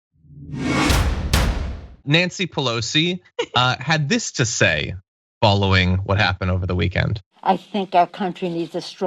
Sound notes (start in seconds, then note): 3.0 laugh